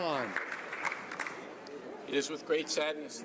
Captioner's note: some Applause